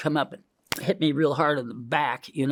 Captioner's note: fist smacking